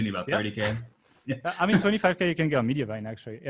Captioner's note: laughing